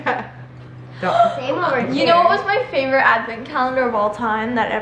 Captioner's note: gasps